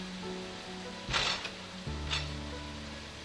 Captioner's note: bang as the lock gate is closed - sound